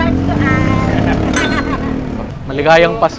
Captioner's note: laughs